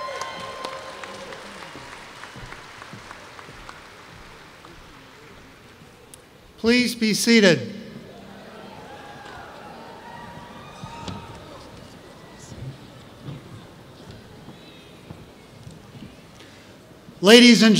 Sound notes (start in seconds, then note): 3.4 cheers